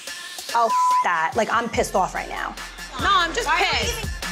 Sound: beep

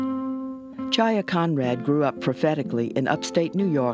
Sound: voiceover

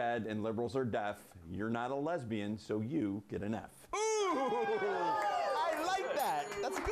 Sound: applause

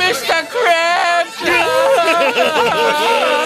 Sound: <i> sobbing</i>

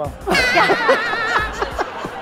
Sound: laughing

